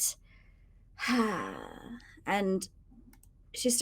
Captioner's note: person sighing